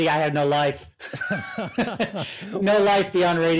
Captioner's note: chuckling